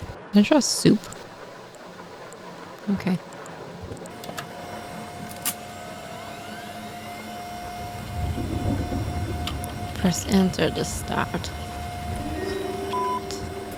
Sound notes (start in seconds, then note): 4.4 loud computer fan and keyboard; 4.4 thunderstorm continues